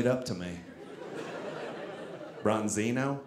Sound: audience laughing

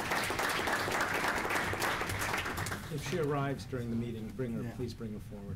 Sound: applause

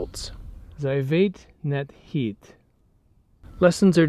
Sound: speaking in foreign language

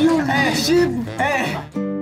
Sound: scared

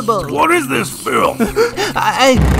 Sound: gasp

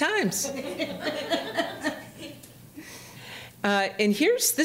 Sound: audience laughing

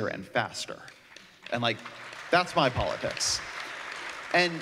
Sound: applause

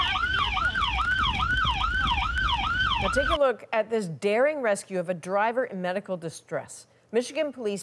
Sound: siren

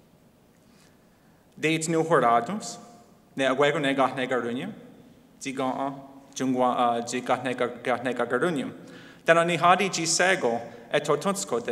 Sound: Speaking in Mohawk

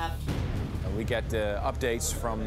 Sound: thunder crashing

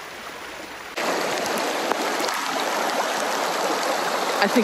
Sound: rain trickling; water rushing

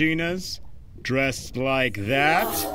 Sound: studio audience gasps

